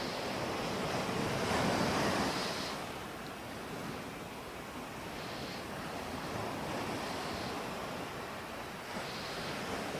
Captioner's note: breathing